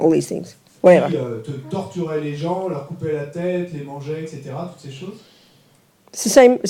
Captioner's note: French